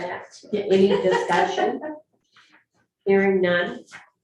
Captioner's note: laughs